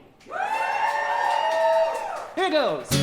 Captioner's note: audience cheering